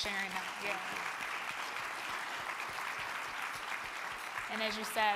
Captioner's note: crowd clapping